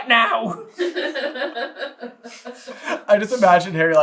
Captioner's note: laughing